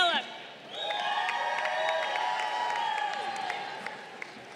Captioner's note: crowd cheering